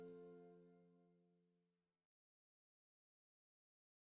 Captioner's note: silence